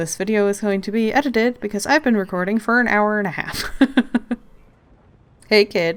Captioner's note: laughs